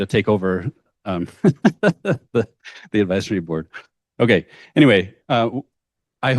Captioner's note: laughs